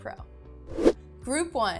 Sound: air swooshing

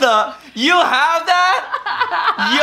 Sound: laughing

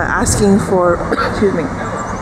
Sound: coughs

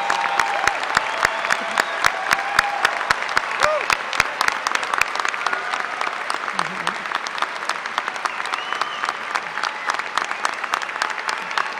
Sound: applause

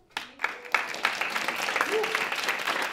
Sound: applause

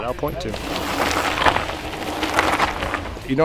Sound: tires crunching on dirt

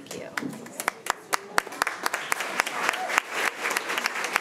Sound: all clapping

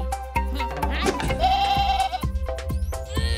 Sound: bleating

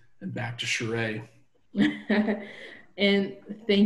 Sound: laughing

